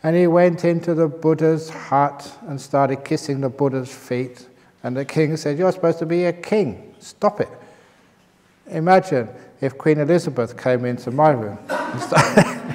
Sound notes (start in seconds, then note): 11.6 laughter